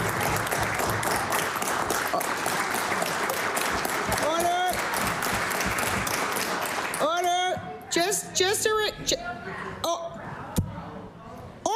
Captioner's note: applause